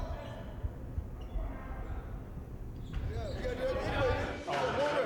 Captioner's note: people chattering